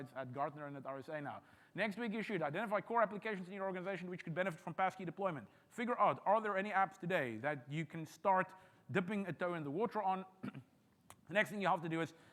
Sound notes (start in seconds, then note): 10.4 clears throat